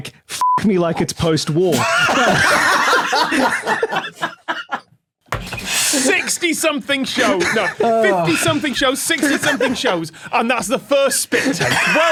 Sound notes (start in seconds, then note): 1.8 group laughs uproariously; 11.2 guests laughing